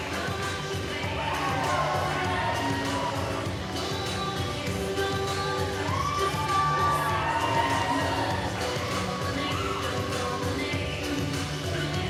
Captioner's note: crowd cheering